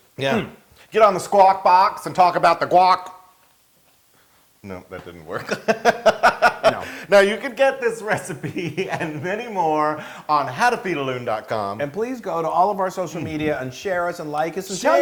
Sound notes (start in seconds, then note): 5.4 laugh